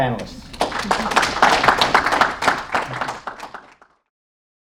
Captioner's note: applause